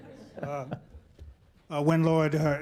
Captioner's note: laughter